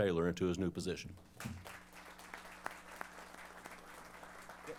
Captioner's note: applause